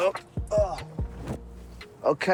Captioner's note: grunts